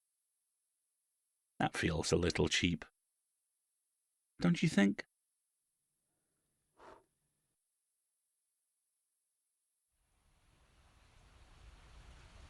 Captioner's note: rain falling